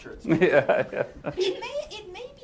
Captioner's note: laugh